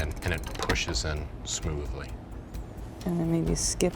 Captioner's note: lock clicks